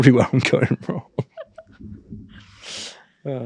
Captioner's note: chuckling